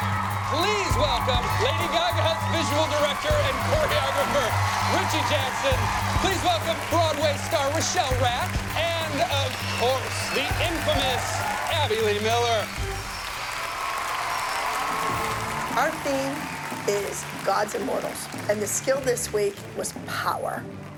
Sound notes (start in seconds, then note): 12.7 applause